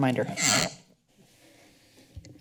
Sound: creaking sound

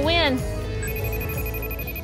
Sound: phone Ringing

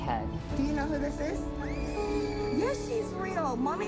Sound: child screams

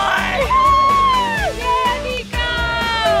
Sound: upbeat music; cheering

